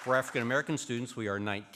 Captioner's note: applause